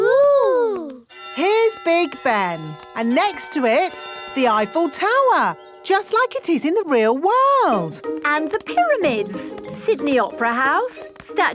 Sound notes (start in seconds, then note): 1.1 clock chimes